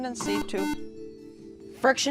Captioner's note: beep